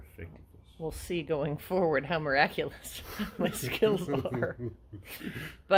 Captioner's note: laughs